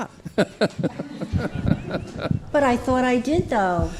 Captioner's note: laughing